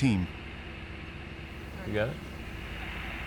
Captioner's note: radio static buzzing